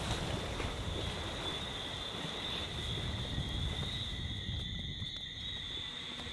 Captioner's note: insects quietly buzzing